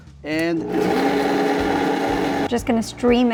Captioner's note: blender whirring